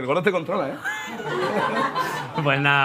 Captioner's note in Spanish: Risas